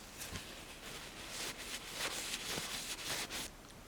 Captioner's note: wiping sound in Japanese